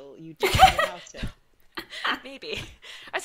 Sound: laughter drowns out speaker

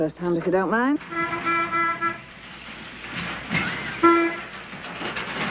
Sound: vehicle horn honking

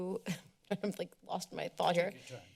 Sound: chuckles

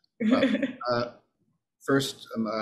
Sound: laughs

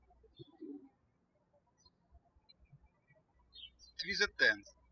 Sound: birds chirping

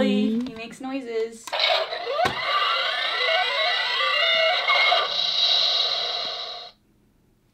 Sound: wall-e makes noises

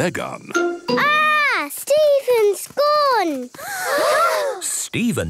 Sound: gasps

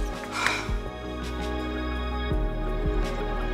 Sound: girl sighs

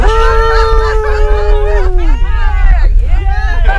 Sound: in a happy and enthusiastic tone

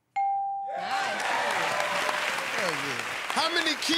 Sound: cheers and applause

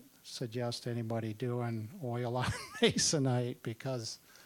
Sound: laughing

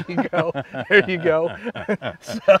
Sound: laughing; laughs

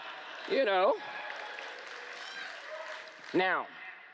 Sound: cheering

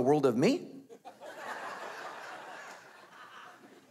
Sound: laughing

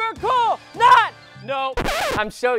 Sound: record scratch

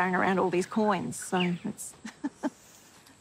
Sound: laughs

